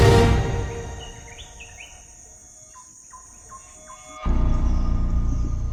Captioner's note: sound of jungle animals